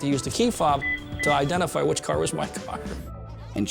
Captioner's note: car unlocking beeps